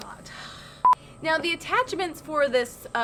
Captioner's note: beeping